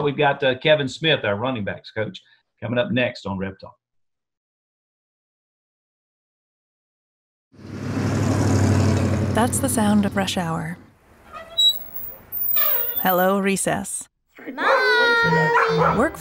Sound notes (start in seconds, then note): 7.6 engine rumbles; 11.2 squeak; 14.6 barking